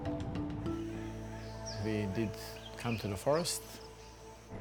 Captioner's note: birds chirping